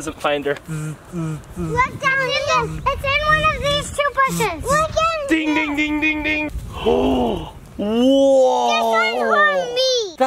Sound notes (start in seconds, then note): 0.7 imitates buzzing; 7.0 gasps